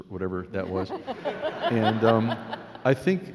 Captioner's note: laughing